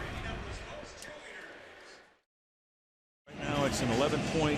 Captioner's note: pa announcement